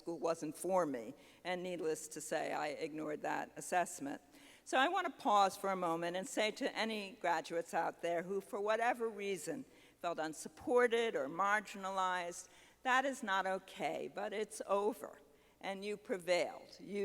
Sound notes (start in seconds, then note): none